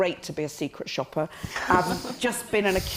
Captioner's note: all laughing